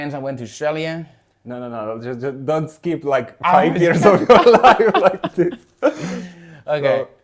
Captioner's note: laughs